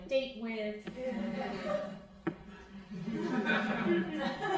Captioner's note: crowd laughing